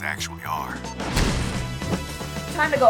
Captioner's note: door banging